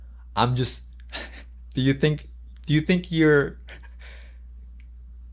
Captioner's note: chuckles